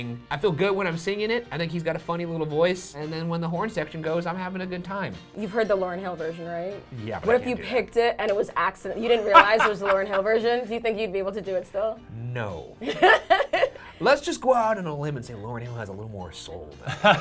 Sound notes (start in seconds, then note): 12.9 laughing; 16.8 laughing